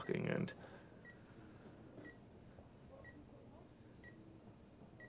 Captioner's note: monitors beeping